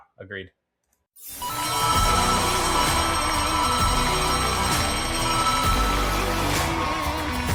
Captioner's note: upbeat Music; crowd Cheering